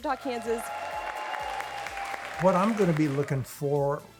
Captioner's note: all cheering and clapping